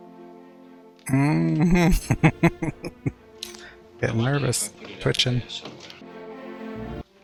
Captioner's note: chuckling